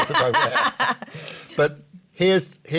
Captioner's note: laughter